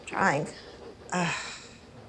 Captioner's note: sighs